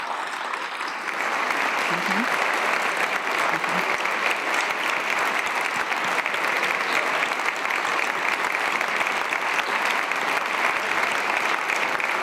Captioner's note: cheers and applause